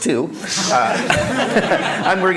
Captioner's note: laughter